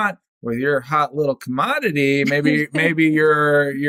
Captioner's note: laughter